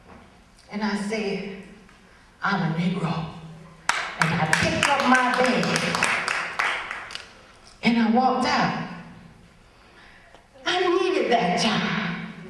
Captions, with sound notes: and I said, “I’m a negro.” (audience starts to clap but stops) And I picked up my bag, and I walked out. I needed that job.